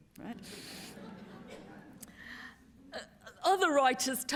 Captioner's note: laughter